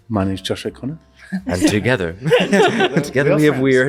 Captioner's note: chuckles